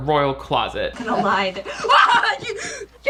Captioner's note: screams